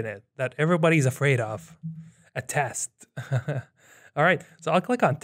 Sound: chuckles

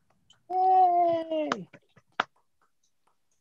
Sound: appluase

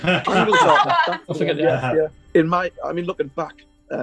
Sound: laughing

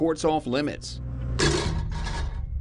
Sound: bonk

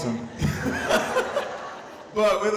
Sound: laughing

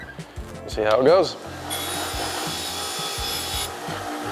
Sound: metal grinds

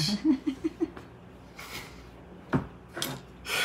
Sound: laughing

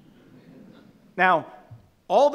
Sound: audience laughing

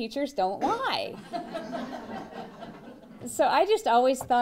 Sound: laughter

